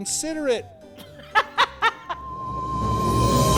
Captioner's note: laughter of disbelief